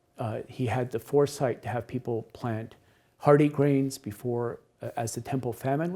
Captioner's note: none